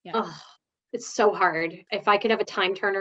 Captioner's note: groans